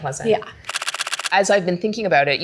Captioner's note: camera clicking